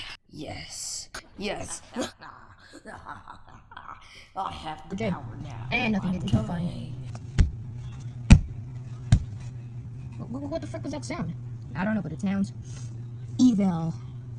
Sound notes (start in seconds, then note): 1.6 Shards laughs